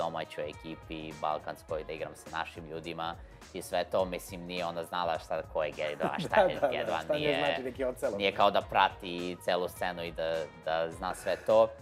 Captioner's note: both start laughing